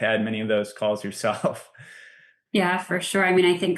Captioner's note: laughs